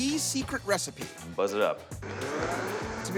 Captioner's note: whirring